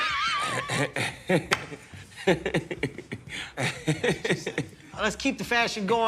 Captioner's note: laughter